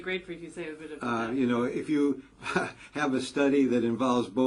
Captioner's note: laugh